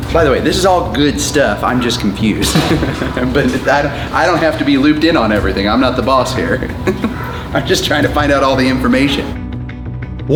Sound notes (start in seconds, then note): 2.9 laughs